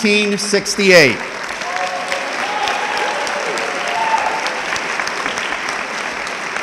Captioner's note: audience clapping and yelling